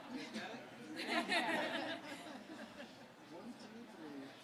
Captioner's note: family laughing